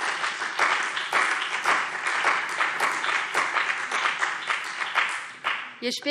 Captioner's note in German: Beifall BÜNDNIS 90/DIE GRÜNEN und CDU